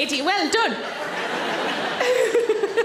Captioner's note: audience laughs; Sarah laughs